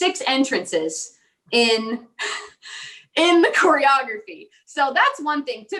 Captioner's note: laughing